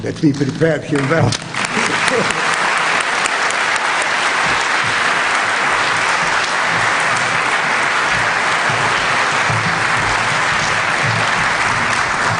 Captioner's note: applause